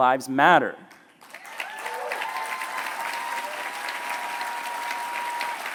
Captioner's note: cheering